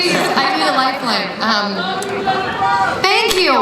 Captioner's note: crowd